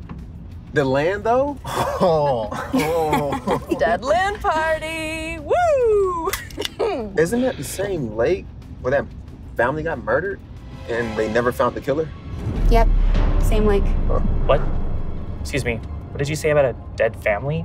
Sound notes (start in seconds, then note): 1.6 Maggie laughs; 5.7 opens can